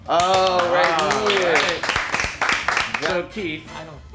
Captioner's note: movers clapping